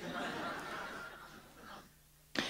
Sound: laughter

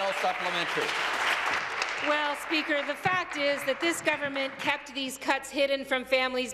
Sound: applause

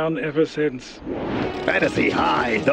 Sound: air whooshes

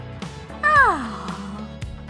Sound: yawn

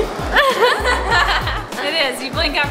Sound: laughing

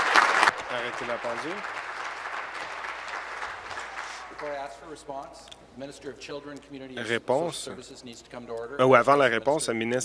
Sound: applause

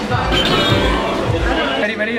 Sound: boing

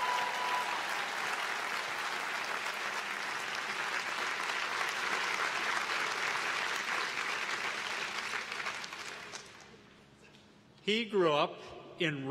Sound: applause

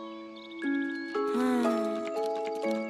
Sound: sigh

